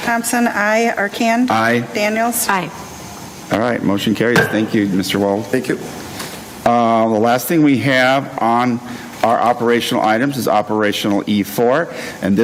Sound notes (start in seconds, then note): 4.4 gavel raps desk